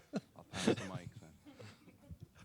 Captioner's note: laughter